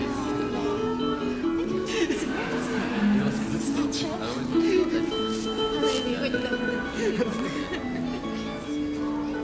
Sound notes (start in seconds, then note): 1.7 still sobbing